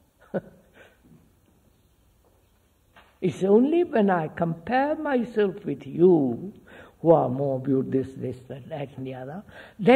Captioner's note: laughs